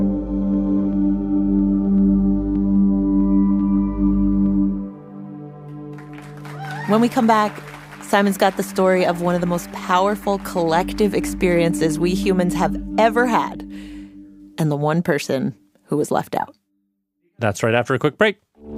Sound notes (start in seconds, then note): 5.8 applause